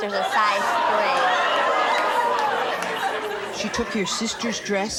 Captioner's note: audience gasps